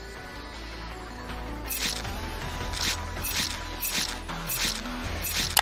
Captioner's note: mouse clicking; upbeat music; blade rasping; blood squelching